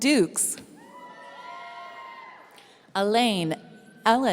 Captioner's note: audience cheering